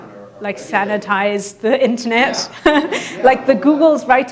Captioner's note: laughs